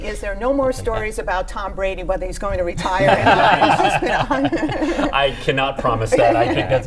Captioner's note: laughter